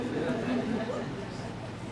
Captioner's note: giggles